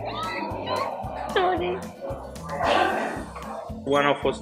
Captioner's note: laughing